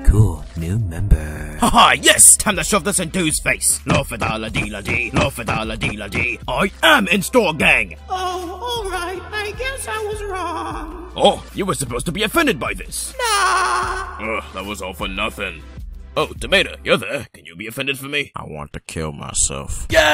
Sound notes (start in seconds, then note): 3.9 marching